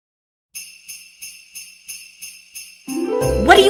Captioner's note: christmas bells